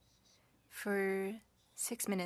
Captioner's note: speaking French